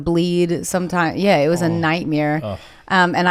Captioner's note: gasps